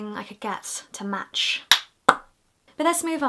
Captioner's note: makes a pop noise